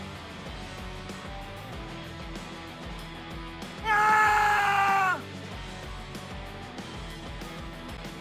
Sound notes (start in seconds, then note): 3.8 screams